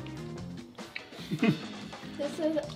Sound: chuckles

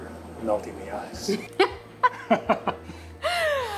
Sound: laughs

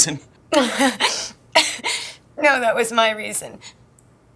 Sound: sobbing_laugh

